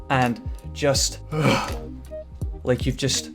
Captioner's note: sigh of relief